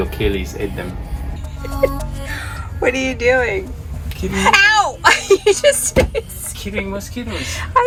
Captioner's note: laughing